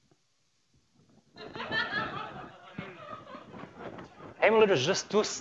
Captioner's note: laughter